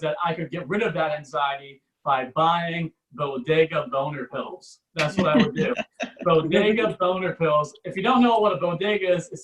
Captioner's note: audience Laughs